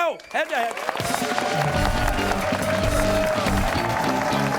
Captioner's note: cheers and applause